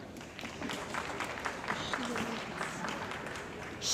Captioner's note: applause